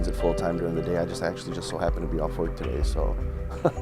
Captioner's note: laughs